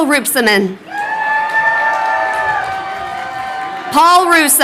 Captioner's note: crowd cheering